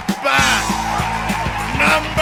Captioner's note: applause, raucous cheers